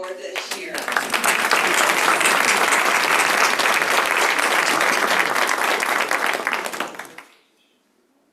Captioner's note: applause